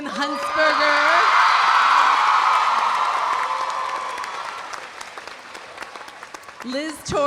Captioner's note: audience cheering; audience applauding